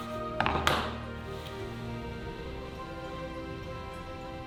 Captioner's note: scissors thud